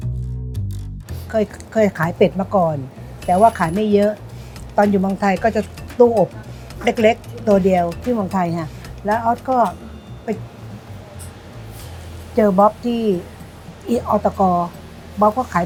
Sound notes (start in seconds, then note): 0.1 playful music continues; 1.3 speaking Thai